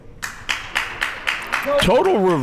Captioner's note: crowd members clapping